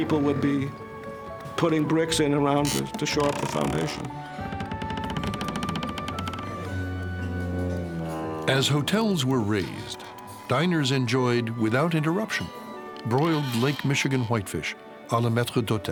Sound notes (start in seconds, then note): 4.0 machinery creaking